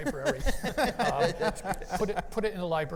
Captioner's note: panelists laugh